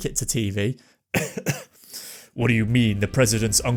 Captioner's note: cough for dramatic effect